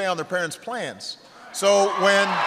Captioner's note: applause